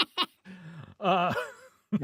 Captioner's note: laughing